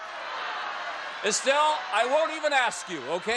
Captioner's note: audience yelling